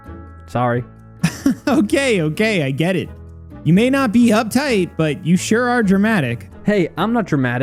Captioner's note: chuckles